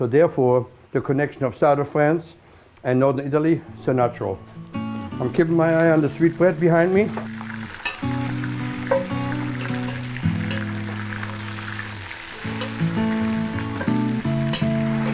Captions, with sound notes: SO THEREFORE, THE CONNECTION OF SOUTHERN FRANCE AND NORTHERN ITALY IS A NATURAL. I'M KEEPING MY EYE ON THE SWEETBREAD BEHIND ME. [oil crackling]